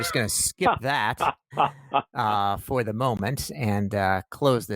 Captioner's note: laughs